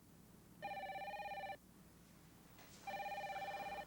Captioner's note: phone ringing